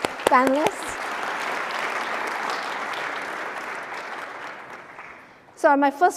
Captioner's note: applause